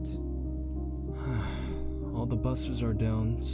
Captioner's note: sigh